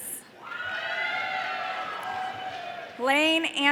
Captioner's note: audience cheering